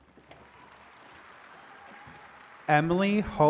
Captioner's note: attendees cheering and clapping